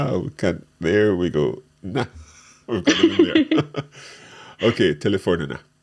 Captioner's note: laughing